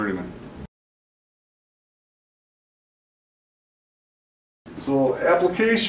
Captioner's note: silence